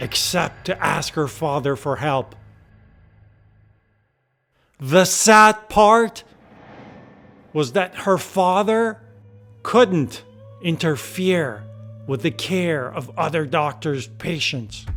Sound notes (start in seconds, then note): 6.3 air whooshing